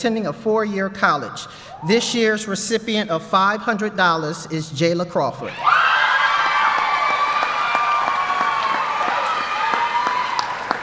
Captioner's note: applause